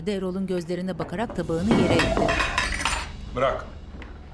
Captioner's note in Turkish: Düşme sesi